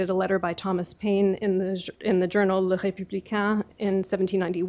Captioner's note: french